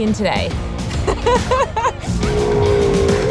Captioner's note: laughing